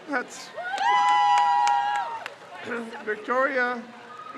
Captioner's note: crowd cheers